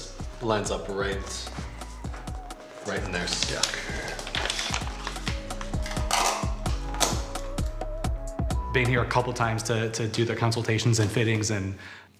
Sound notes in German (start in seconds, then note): 4.6 Energievolle Musik; 8.8 englisch